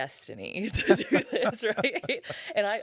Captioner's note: laughing